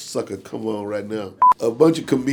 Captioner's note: beep